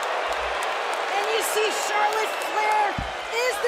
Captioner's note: crowd cheering